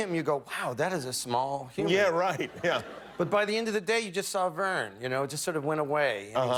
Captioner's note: light laughter